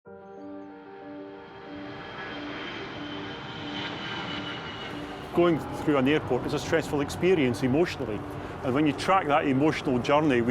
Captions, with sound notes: (piano music) (airplane roaring) Going through an airport is a stressful experience emotionally. And when you track that emotional journey,